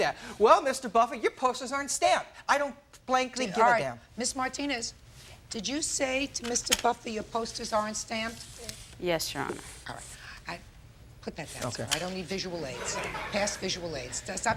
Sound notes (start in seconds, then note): 12.7 audience laughing